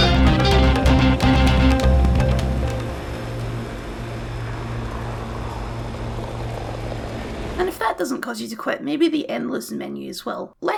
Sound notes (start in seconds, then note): 2.3 driving Noises